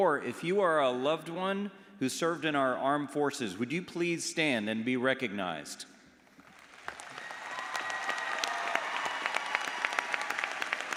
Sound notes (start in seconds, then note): 6.5 audience applauds